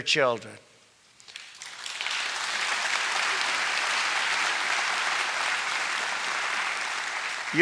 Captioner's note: applause